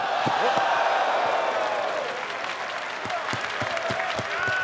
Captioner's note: crowd cheering